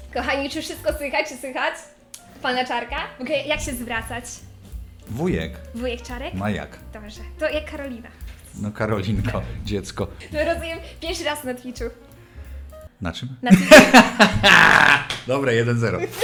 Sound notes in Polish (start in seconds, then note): 13.5 śmiech